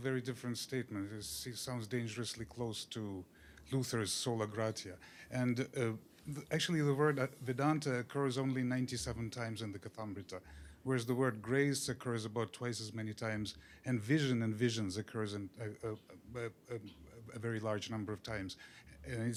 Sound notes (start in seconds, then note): 10.0 hindi